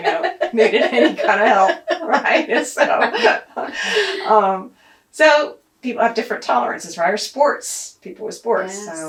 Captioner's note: laughs